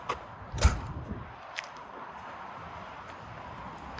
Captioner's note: door slamming